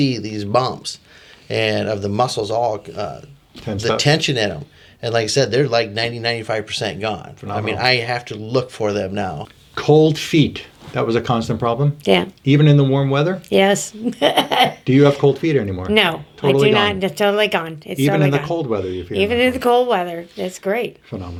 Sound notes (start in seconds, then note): 14.0 laughs